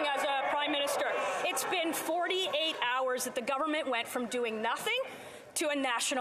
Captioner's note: yelling